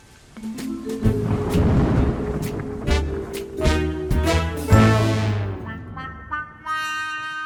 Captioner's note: pensive music; thunder rumbling